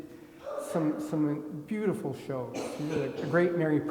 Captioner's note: attendee coughing